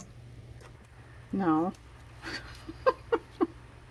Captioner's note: laughs